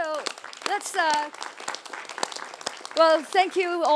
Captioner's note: applause